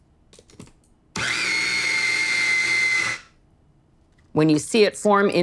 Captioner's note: grinding